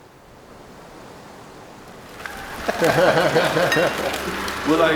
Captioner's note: air whooshes